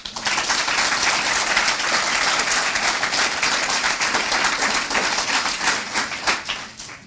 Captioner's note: applause